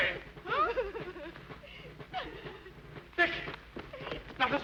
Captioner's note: Becky sobbing